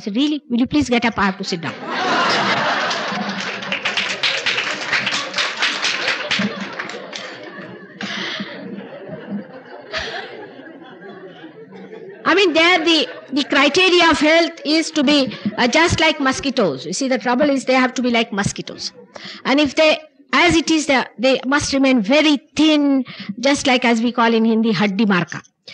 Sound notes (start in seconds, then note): 5.2 laughter and applause, She laughs